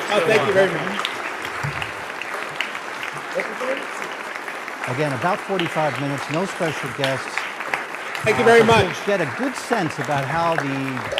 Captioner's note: applause